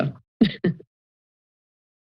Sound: laughter

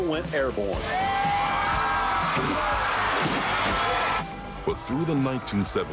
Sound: crowd cheering

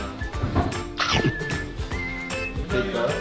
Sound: swishing his tongue

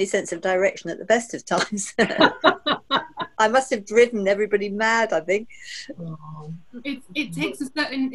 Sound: laughter

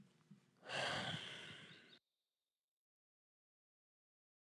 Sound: sighs

